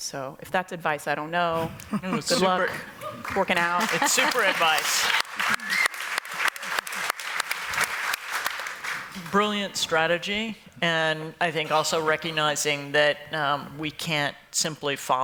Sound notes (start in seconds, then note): 4.9 applause